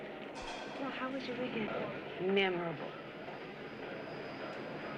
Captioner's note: none